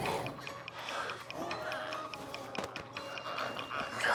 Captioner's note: glowzies growling